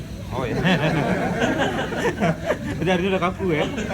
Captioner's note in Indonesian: Tertawa